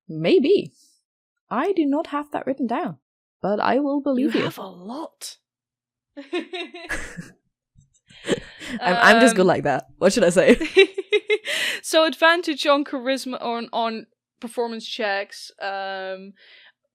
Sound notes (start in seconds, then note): 6.2 both laugh; 11.1 laughs